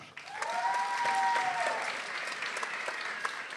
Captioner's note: people cheering